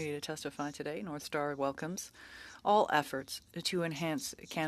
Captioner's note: speaking French